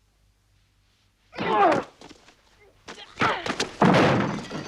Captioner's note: guard groans; Tracima grunts